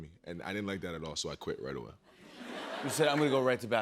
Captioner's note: laughter